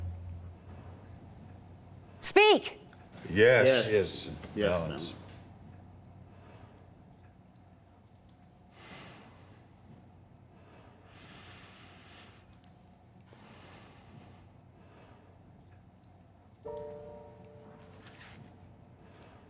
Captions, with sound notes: Speak. - Yes. - Yes. - Yes. Yes, ma'am. [sighing] [slow tempo music]